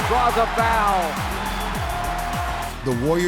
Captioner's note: crowd cheering